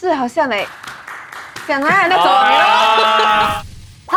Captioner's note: slapping sounds